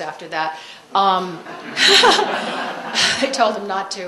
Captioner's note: laughter